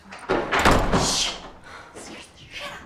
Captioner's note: door thuds